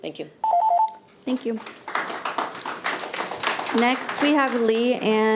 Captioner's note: audience applauding